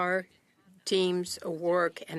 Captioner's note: speaking French